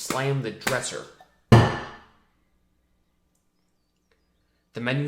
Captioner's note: flask slams